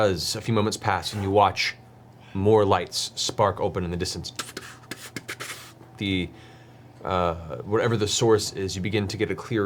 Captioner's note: puff puff puff puff puff